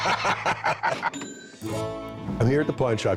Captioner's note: both laugh; cash register rings